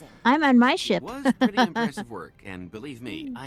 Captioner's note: laughs